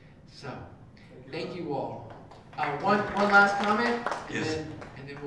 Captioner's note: applause